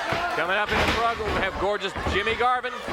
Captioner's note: body thudding